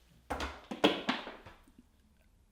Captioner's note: none